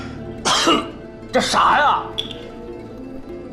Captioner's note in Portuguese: tosse